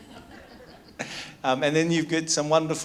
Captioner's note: audience laughs; chuckles